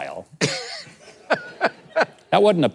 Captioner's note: laughing